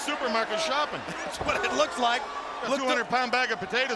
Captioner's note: sportscaster chuckling